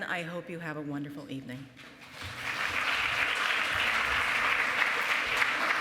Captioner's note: applause